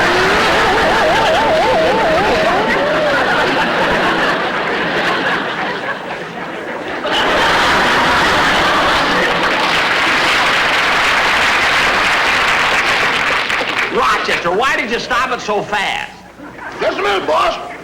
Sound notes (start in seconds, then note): 0.2 audience Laughing; 7.2 audience Laughing Heartily and Applauding